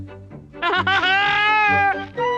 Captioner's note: Toad laughs hysterically